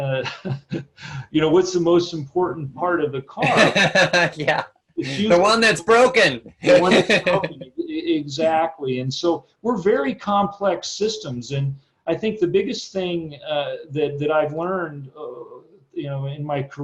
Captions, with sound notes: you know, what's the most important part of the car? - (laughs) Yeah, the one that's broken! - The one that's broken, exactly, and so we're very complex systems and I think the biggest thing that I've learned in my career